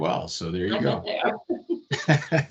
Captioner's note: laughing